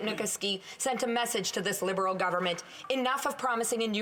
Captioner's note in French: voix de l'interprète